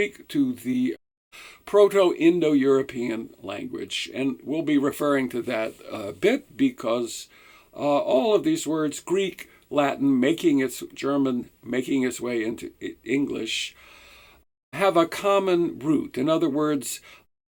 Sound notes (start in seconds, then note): 11.0 German